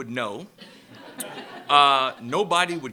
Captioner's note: laughter